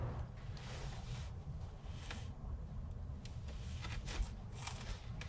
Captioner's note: clothes rustling